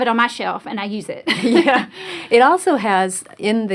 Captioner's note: laughs